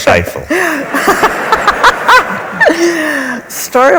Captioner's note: laughs